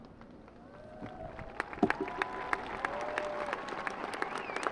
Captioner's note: audience applauding